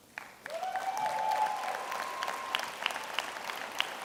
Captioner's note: applauding